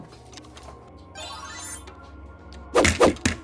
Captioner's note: magic